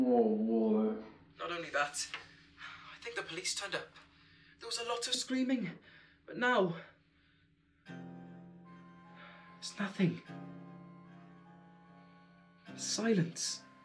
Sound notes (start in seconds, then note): none